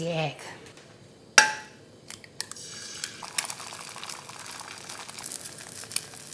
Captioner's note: clanking, gentle sizzling